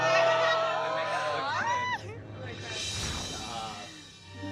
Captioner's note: overlapping chatter